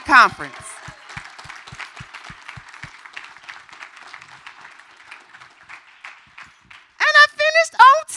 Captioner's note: applause